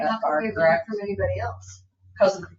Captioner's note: people chattering